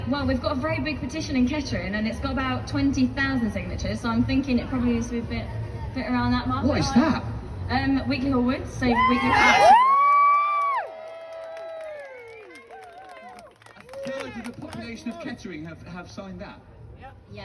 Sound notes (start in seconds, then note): 11.1 crowd cheers